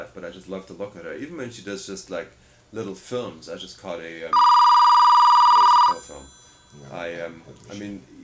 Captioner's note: phone ringing